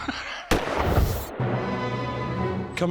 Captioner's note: laugh; gunshot